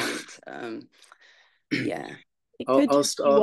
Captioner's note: laughs